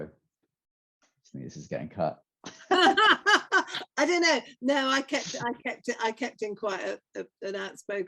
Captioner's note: laughter